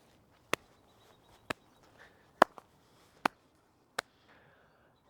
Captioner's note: clapping